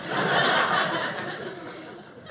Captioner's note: audience laughing